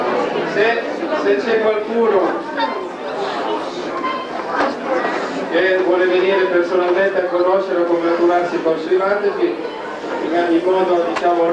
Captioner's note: italian